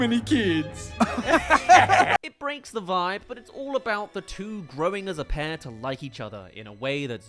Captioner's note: laughs